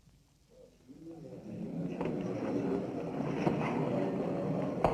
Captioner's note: people murmuring